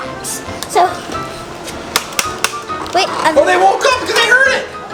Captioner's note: cranks